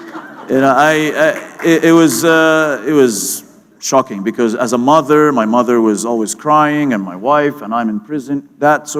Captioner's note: laughter